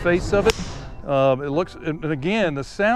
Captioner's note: golf club smacks